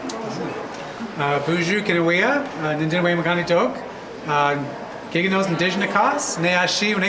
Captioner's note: speaking in a foreign language